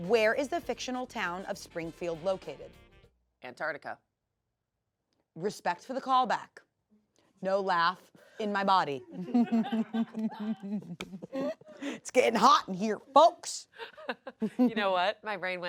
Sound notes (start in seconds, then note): 9.1 everyone laughs